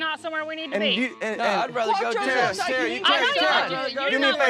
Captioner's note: overlapping shouts